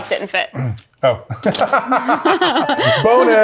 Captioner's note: laughs